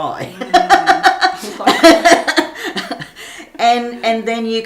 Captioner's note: both laughing